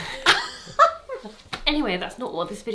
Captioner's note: both laughing